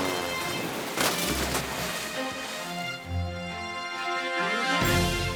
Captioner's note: water splashing